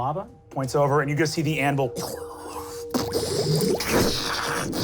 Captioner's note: bubbling